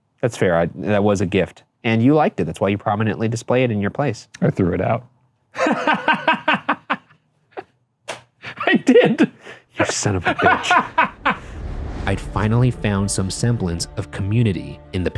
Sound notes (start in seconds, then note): 5.6 laughing; 11.1 Shane cackling